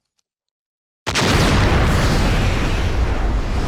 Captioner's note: loud explosion